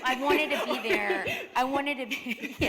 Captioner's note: chuckle